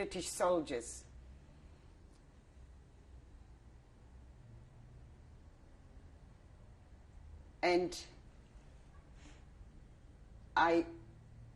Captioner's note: pauses for 7 seconds